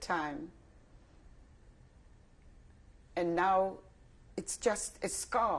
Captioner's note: pauses for 3 seconds